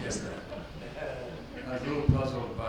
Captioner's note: audience laughs